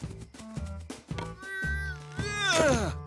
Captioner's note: grunts of effort